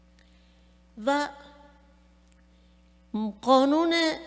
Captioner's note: speaking persian